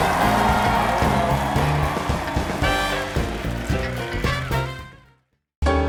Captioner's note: applause